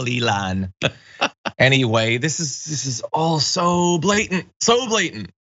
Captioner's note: laugh